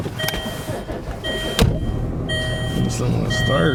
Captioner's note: engine rumbling; beeping